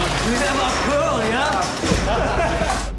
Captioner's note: И двамата се смеят